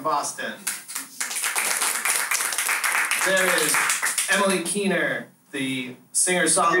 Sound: applause

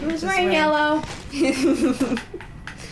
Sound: laughter

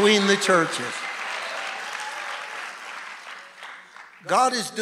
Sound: audience cheering and applauding

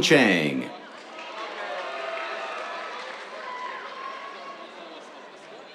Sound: cheers, applause

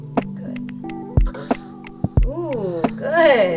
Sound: grunting

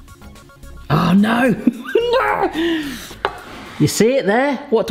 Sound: laughs

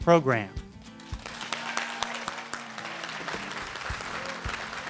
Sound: audience cheering

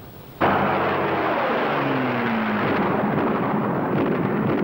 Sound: engine roaring

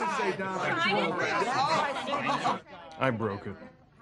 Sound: the sounds of arguments brewing up

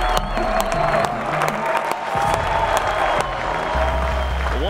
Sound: crowd

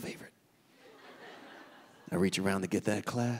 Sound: audience laughing

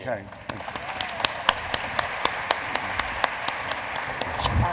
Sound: audience applauds

